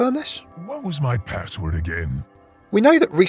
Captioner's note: voiceover